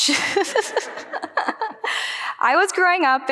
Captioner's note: group laughing